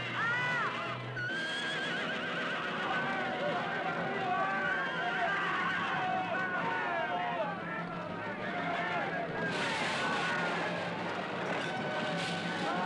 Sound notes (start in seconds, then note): 3.2 chatter